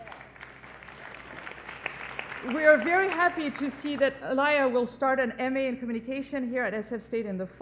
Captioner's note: applause